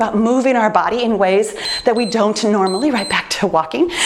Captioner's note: timer beeps